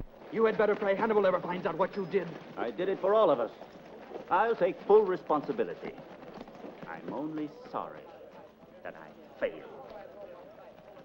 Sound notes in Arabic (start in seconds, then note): none